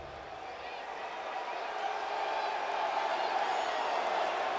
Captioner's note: crowd clamoring